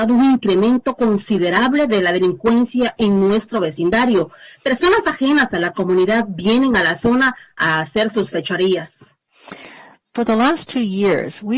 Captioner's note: speaking spanish